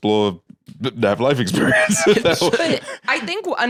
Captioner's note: laughs